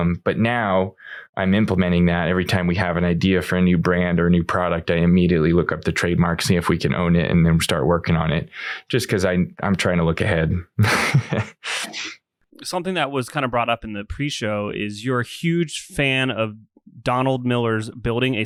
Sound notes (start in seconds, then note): 10.8 laughs